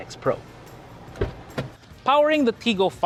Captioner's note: door opens